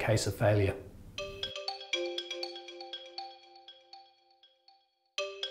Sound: soft bells chiming

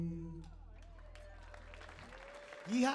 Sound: audience applauding

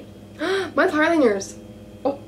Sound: gasp's

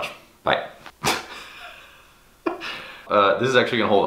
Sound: laughs

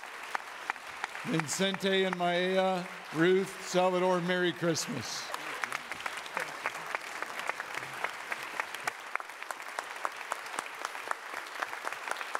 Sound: audience Clapping

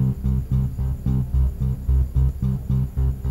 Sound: none

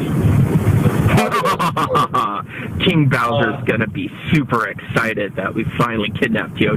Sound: evil laugh

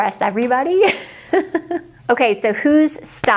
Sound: laughs

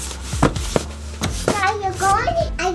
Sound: rustling

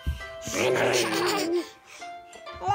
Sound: giggling

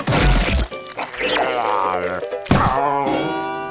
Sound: groaning

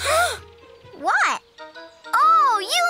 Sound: gasps

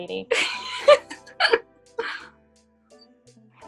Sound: both laughing

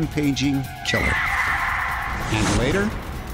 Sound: screaming

